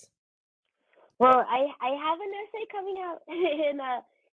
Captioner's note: chuckles